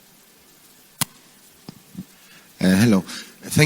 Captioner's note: microphone clicking